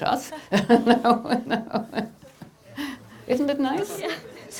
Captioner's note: laughing